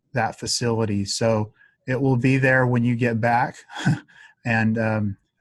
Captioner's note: chuckles